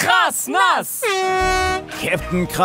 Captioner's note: Startsignal